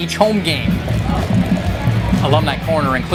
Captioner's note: beer pouring